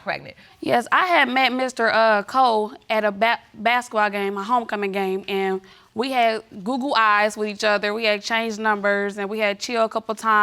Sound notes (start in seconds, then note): none